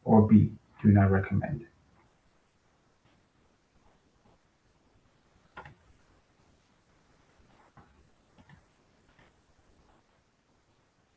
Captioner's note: pause